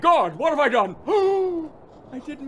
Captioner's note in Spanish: jadeo de sorpresa